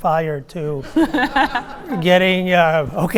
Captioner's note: audience laughing